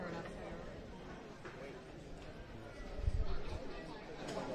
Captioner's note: background chatter